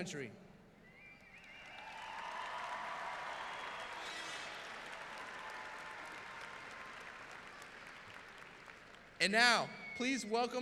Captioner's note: applause